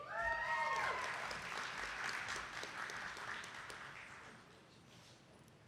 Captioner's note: attendees clapping